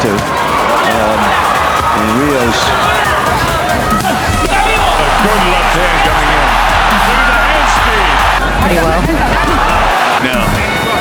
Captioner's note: crowd roaring